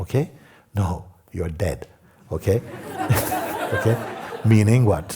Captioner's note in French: rires